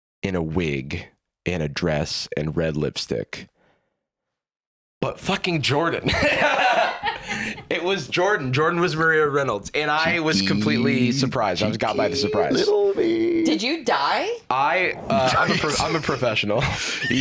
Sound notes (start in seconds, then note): 6.0 laugh; 17.0 laughs